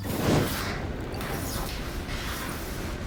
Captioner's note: explosion